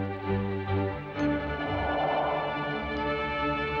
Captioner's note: exhaling